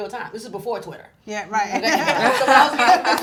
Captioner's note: voiceover; group laughing